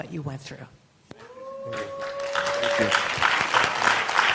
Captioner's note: applause